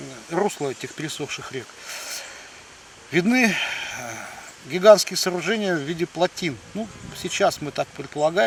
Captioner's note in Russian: вздыхает